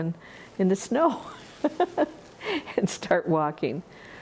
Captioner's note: laughs